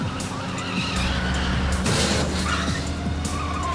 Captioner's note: tires screech